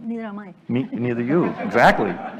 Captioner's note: laughter